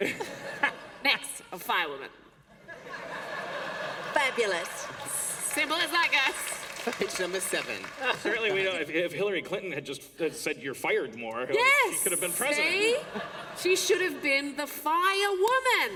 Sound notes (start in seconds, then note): 2.5 laughter; 7.8 applause